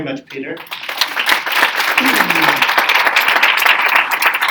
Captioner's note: audience applauding